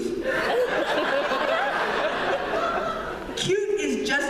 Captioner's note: laughter